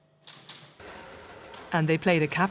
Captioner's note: machines clicking